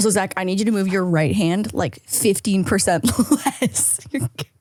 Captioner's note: laughs